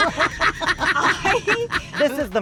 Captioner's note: laughter